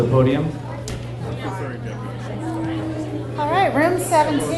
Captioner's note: people chattering